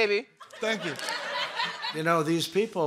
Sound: laughter

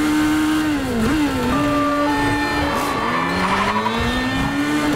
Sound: sirens blaring

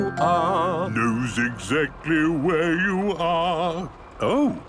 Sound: mimicking tune

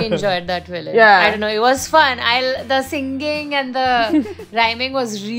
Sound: laughter

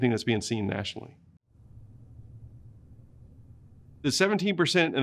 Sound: silence

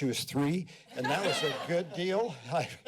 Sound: laughter

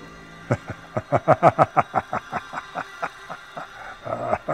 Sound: Darke laughs

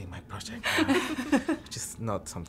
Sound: laughing

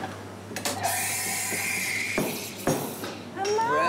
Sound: steam wand hisses

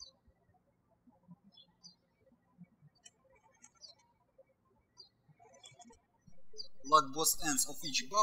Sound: birds chirping

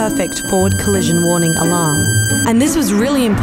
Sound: high pitched beeping

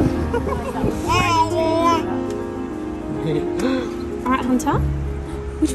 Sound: giggles; babbles

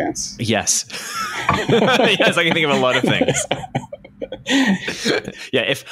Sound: laughter

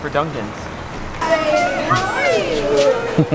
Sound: crowds talking

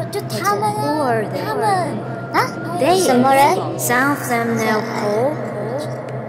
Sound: speaking in Mandarin; disembodied voices chatter

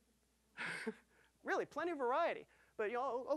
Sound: chuckling

